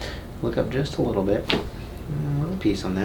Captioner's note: neck cracks